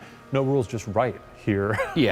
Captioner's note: chuckles